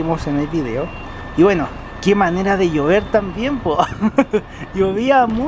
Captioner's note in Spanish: risas